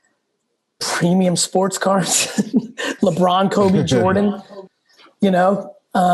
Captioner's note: laughs